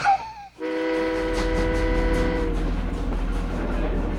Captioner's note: whistle Blowing